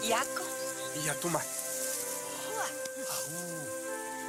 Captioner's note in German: Spricht eine andere Sprache